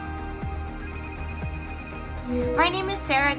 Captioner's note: phone rings